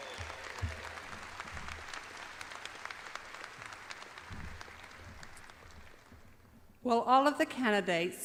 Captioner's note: audience applauds